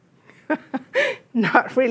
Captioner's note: laughs